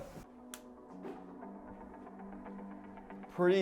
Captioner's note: clicks